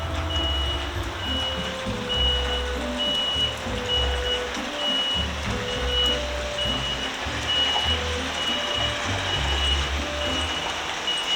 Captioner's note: still beeping; beeping continues